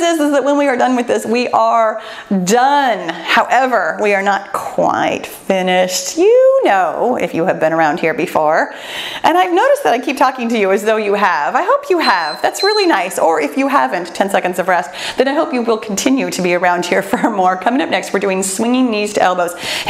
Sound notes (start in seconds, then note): 12.0 timer beeps